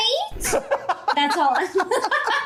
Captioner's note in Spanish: risas